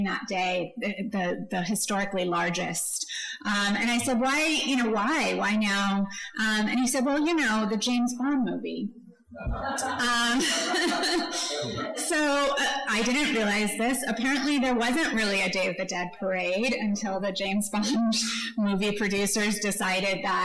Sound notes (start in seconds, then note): 9.4 audience laughs